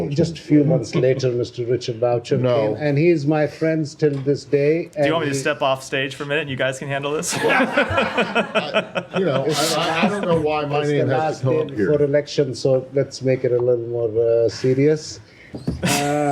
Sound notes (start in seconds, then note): 7.2 laughter